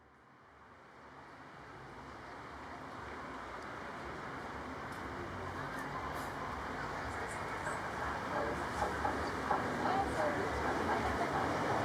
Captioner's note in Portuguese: barulho de trem